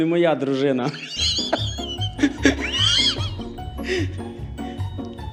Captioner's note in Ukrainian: сміється